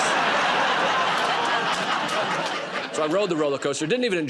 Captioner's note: laughter